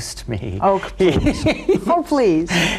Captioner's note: laughs